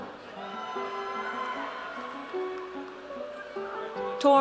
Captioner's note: audience cheers